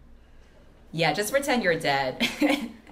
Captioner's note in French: rigole